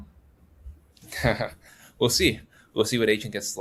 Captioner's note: chuckles